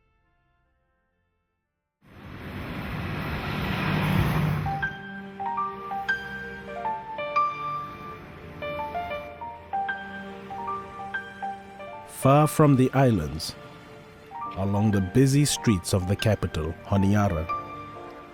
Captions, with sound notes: (car engine sound) (gentle music) Far from the islands, along the busy streets of the capital, Honiara,